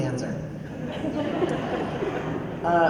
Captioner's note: laughter